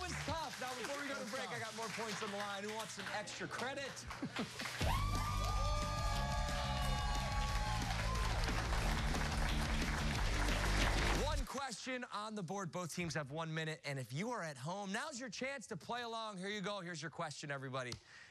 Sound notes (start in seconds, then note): 5.8 cheers and applause